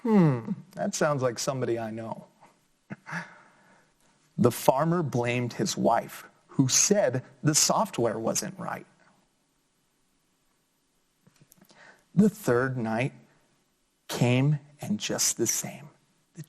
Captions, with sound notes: Hmm, that sound like somebody I know. (chuckles) The farmer blamed his wife who said, "The software wasn't right." The third night came, and just the same.